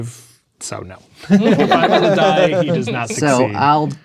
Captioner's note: players laughing